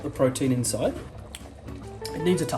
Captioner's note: lips smacking